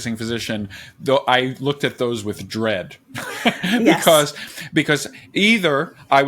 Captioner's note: laughs